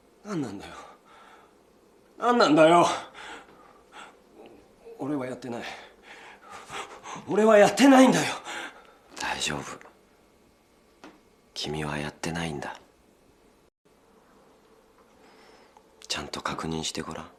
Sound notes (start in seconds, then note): 3.1 gasps in short spurts; 5.7 hyperventilates